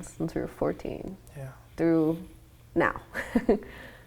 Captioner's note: laughs